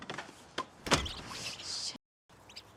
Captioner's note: mouse squeaks